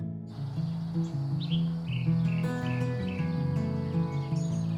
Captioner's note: birds twitter